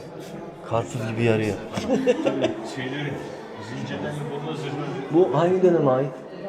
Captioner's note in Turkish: kahkaha